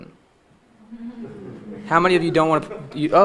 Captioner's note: audience chuckling